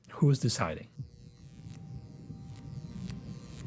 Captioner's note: electrical pulses